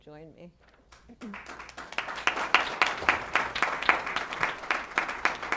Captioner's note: applause